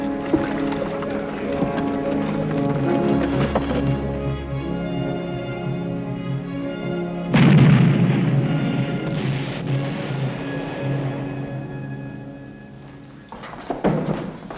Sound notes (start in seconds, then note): 4.8 somber instrumental music; 7.4 cannon booming